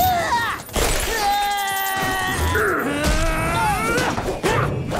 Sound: grunting

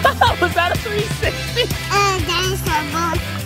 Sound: laughs

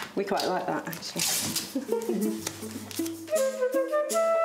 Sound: giggles

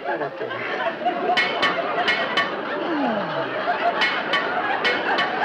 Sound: audience laughs; metal clanking

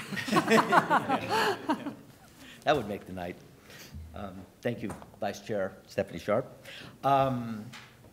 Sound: laughter

